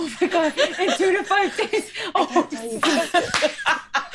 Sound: laughing

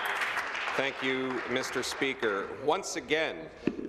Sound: applause

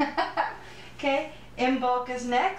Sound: laughter

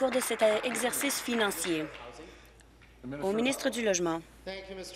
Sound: applause

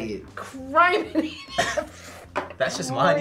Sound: laughs

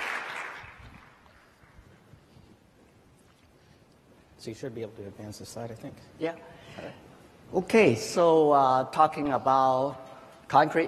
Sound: applause

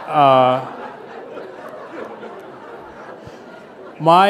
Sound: laughter

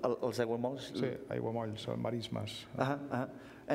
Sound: speaking catalan

